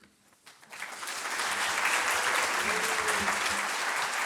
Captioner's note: applause